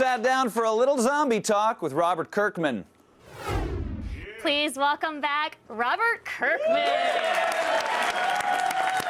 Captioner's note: applause